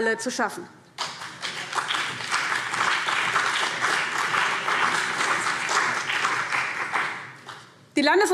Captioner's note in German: Beifall CDU und BÜNDNIS 90/DIE GRÜNEN